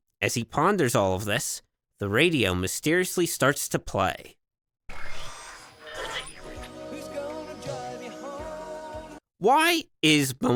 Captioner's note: Bumblebee’s radio starts